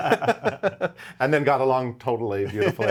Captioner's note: both laugh